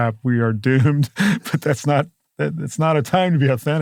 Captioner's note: laugh